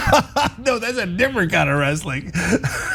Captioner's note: laugh